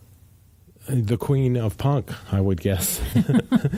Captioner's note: laughs